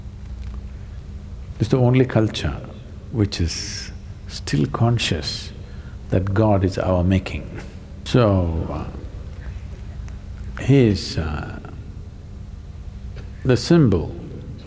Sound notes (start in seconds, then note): 8.6 laughs